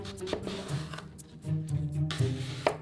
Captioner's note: knife cutting